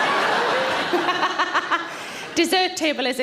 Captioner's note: audience laughs; Sarah laughs